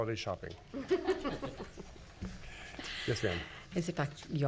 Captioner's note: woman laughing